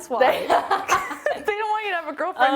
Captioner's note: laughing